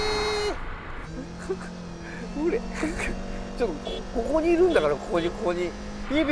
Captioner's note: honks horn